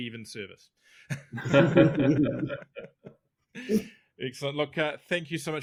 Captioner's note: all laughing